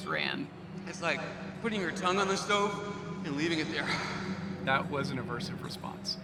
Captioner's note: echoing